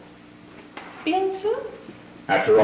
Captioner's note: speaks foreign language